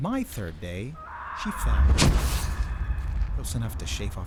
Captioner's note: Edna screams and thuds